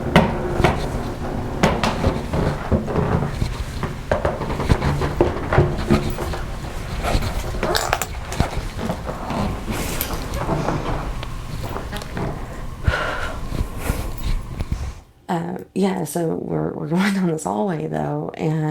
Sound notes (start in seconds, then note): 3.3 floors excessively creaking